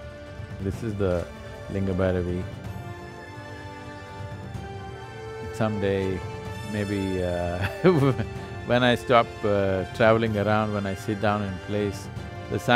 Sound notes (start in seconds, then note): 7.6 laughs